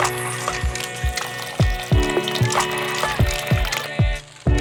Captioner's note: water dribbles